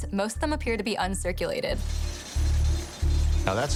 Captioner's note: coins clinking